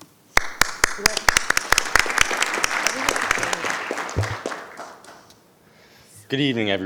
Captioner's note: audience applauding